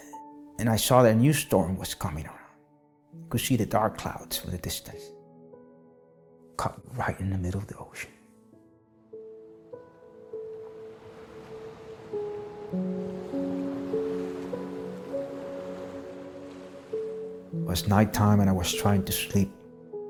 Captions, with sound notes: and I saw that a new storm was coming around. I could see the dark clouds in the distance cut right in the middle of the ocean. (gentle music continues) (waves crashing) It was night time and I was trying to sleep